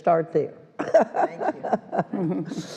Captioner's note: ALICE laughs